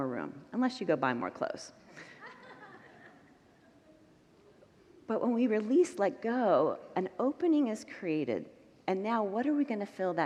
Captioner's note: congregants laugh